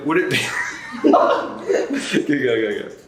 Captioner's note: laughs